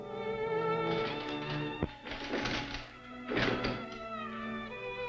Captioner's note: paper rustling